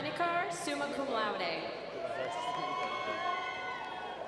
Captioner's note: cheers and applause